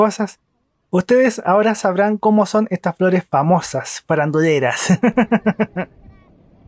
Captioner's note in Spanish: risas